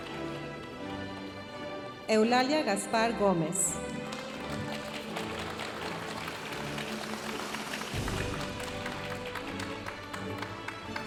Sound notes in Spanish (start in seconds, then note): 3.8 aplausos de la audiencia